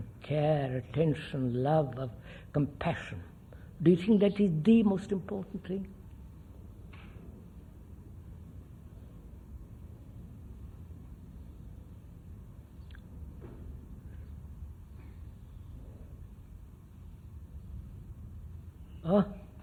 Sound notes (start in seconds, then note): 15.2 laughs